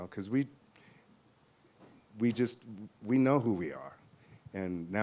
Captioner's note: none